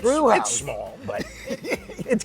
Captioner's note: laughs